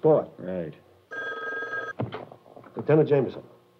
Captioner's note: phone rings